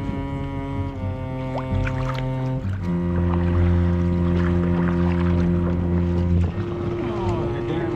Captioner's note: water splashing